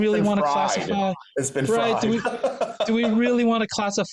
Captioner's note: laughs